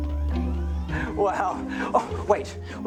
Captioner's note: chuckles